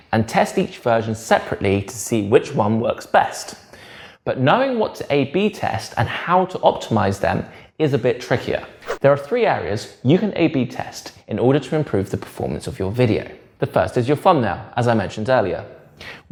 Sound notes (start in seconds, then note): 8.8 page whips